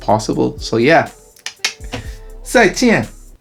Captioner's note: clicks tongue